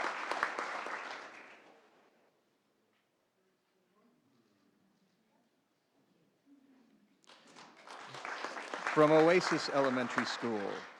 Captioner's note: applause